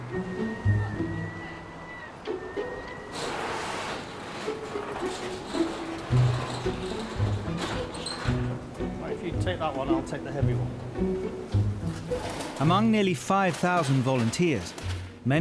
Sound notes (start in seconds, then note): 0.0 bright music; 0.2 pedestrian chattering; 3.7 door rattling; 5.0 bright music continues